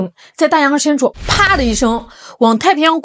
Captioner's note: boom